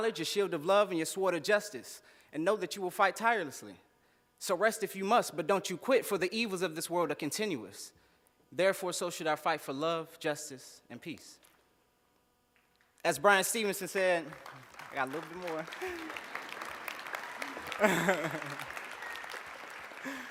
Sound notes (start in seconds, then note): 13.7 applause; 17.3 laughs